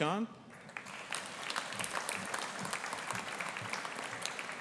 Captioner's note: audience applauding